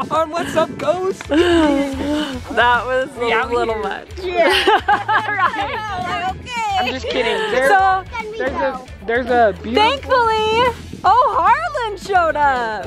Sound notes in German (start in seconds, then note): 4.4 lacht